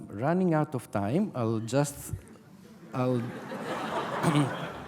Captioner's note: audience laughter